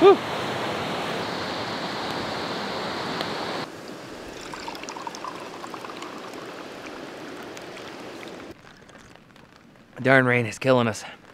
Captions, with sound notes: Whoa! (water pouring) Darn rain is killin' us!